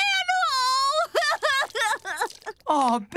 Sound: crying

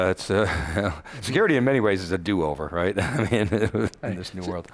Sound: laughing; laughing

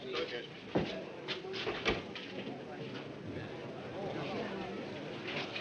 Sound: people chattering

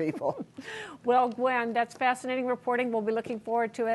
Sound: laughter

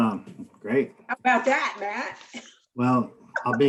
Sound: laughing; laughing

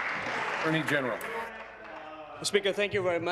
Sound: applause

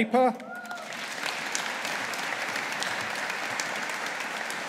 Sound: audience applauding

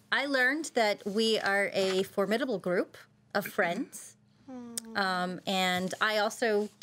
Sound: none

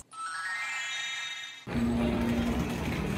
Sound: chiming

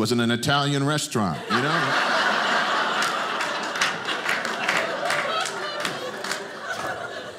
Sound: audience laughing

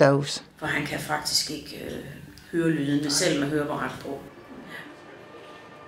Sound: in Danish

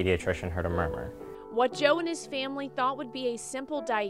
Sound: voiceover

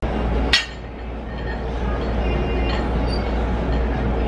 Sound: weights clanging

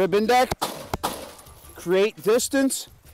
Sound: two gunshots

